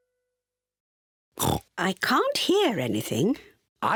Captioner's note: oinks